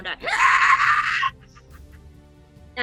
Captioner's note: shrieks